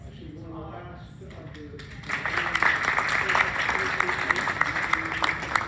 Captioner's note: clapping